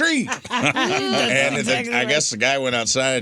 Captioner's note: laughing